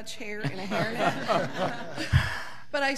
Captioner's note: audience laughing